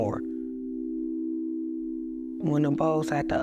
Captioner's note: bowl resonates soothing tone